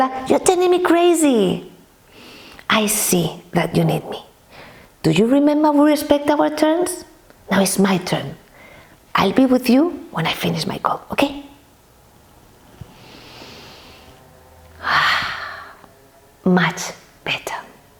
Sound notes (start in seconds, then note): 14.7 sound of relief